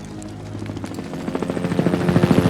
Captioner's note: helicopter rotors whirring